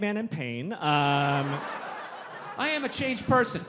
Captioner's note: audience laughs